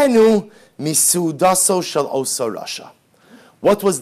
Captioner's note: Hebrew